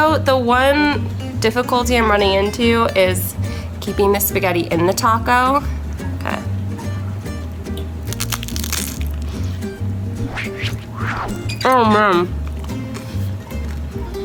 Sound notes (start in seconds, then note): 8.1 crunching